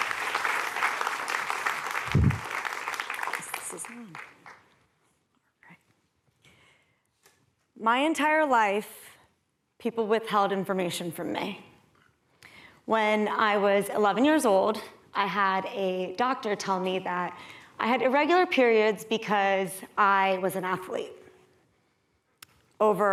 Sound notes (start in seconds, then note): 2.6 applause